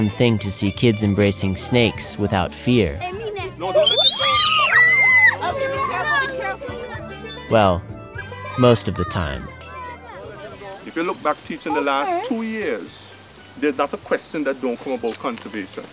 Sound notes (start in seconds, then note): 3.7 screams